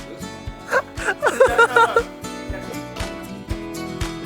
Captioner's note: loud laughter